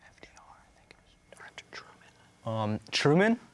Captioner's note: whispers